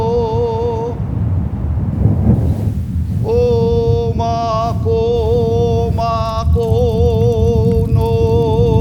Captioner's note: chanting